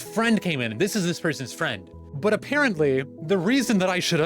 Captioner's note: sarcasm